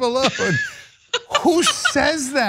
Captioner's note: laugh